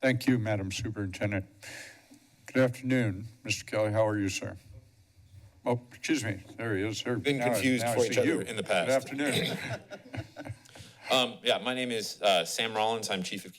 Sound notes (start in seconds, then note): 10.0 laughs